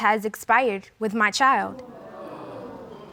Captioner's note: audience gasping